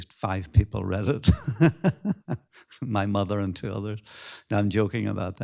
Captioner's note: laughs